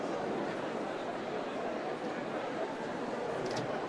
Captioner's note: none